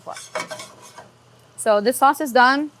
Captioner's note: pan scraping